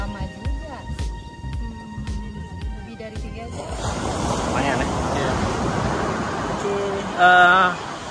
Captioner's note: none